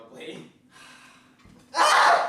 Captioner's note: sighs; screams dramatically